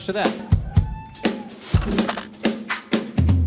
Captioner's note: audience members cheer